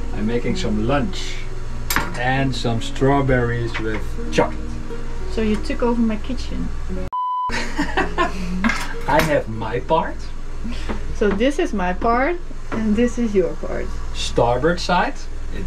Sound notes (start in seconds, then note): 7.1 beep; 7.5 laughs